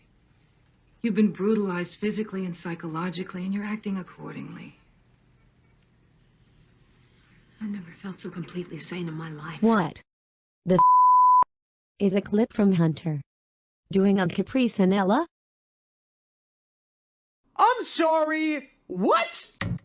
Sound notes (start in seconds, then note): 7.8 on TV